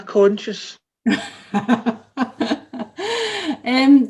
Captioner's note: laughter